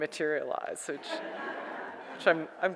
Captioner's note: audience laughs